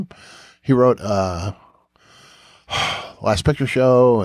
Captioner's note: sighs